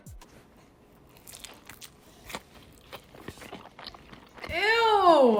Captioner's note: pizza squelching